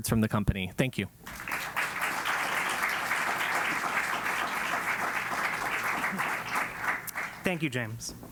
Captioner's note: applause